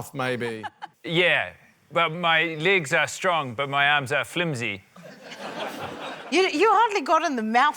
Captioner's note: laughter